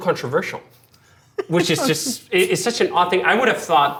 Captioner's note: laughing